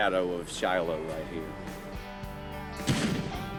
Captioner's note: explosion